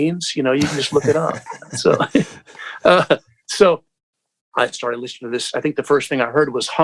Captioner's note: laughter